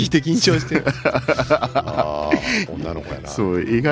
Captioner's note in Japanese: 笑い